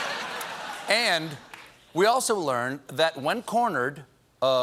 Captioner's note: laughter